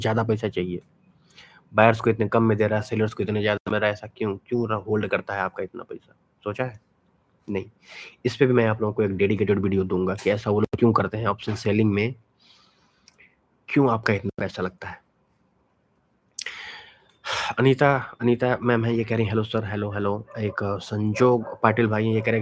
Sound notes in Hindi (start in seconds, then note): 16.4 गहरी सांस लेने की आवाज़; 16.5 अचानक ज़ोर से सांस लेने की आवाज़